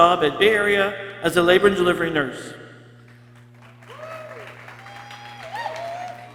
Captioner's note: people cheering